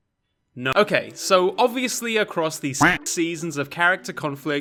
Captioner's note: quack